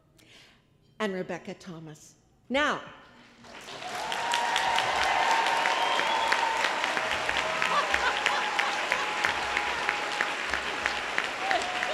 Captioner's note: applause